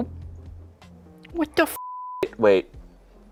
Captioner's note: beep